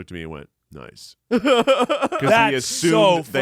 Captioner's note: laughs